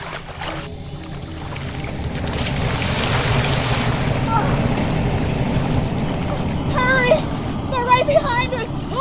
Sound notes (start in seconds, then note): 2.9 water splashing